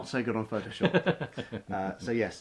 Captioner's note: chuckles